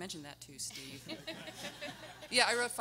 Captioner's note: everyone laughing